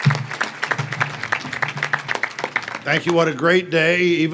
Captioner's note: audience claps